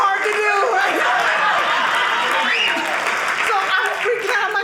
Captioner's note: audience clapping